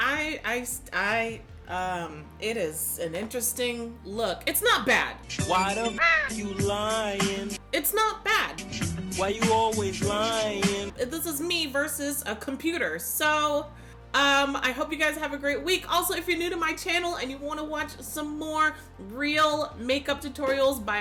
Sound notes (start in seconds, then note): 5.8 bird squawking